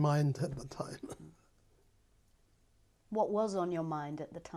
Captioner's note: laughs